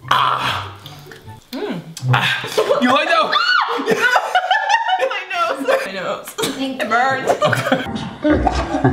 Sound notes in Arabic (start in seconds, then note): 3.2 الصراخ